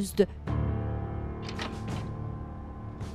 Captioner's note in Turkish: Kapı açılma sesi